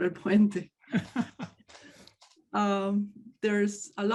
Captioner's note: laughs